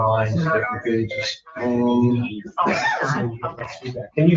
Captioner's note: members chattering